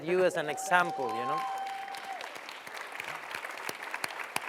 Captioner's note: cheering and applause